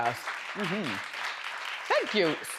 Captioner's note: audience applauds